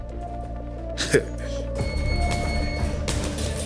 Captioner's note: chuckles